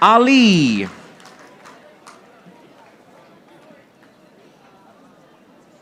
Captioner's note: audience applauding